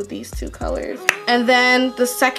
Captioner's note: pops tongue